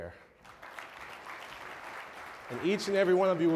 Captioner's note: applause